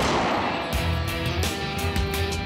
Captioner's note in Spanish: Disparo